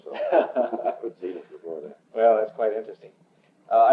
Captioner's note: laughs